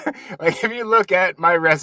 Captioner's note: laughs